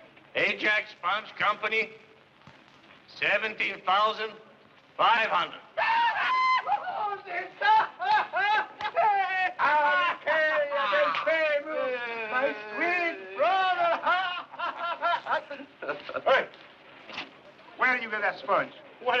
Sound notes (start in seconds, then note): 5.7 man cheering; 15.0 laughing